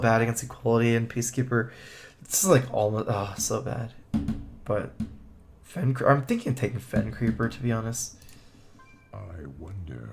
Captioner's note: moan